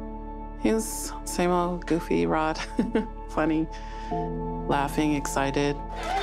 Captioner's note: laugh